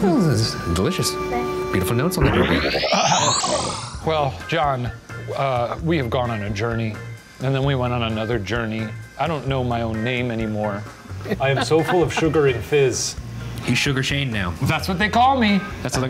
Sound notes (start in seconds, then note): 2.1 electronic whoosh; 11.3 laughs